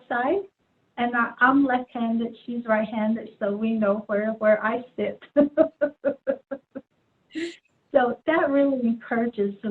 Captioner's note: laughs